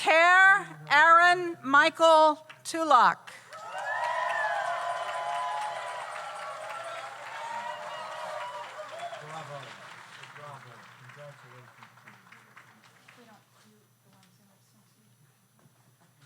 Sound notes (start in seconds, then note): 3.5 audience applauds; 3.5 audience cheers